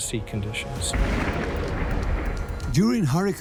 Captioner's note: thunderclap